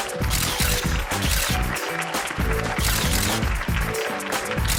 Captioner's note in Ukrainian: оплески